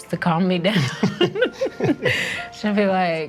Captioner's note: laughing